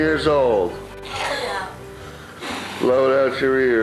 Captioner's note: blowing